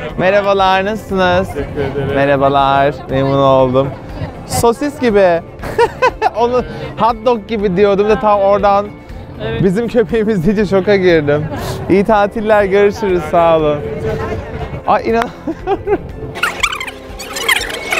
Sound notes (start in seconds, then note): 5.8 laughs; 16.3 laughs